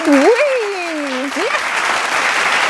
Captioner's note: audience applauding